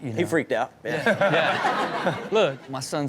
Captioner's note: Sterling and audience laughing